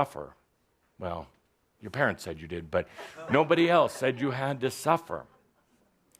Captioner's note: some laughter